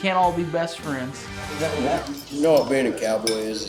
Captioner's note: all chattering